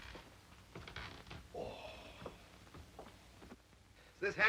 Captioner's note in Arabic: رودولف يسخر